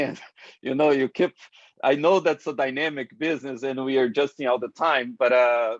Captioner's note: laugh